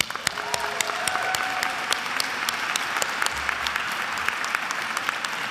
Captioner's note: attendees applauding and cheering